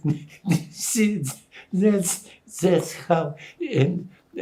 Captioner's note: laughing